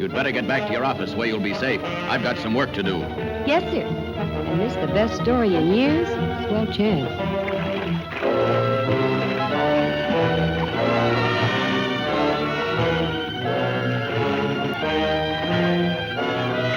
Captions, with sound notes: (tense music) - You'd better get back to your office where you'll be safe. I've got some work to do. - Yes sir. And miss the best story in years? Small chance. (water rippling) (melodramatic music)